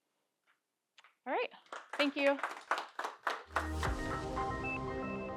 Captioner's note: audience applauding; light music